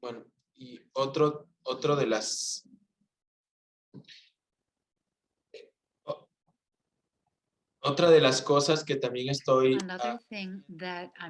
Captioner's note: non-english speech